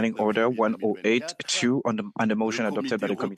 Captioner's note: speaking in French